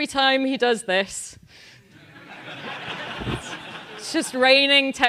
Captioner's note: laugh